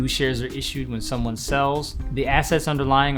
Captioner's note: whooshing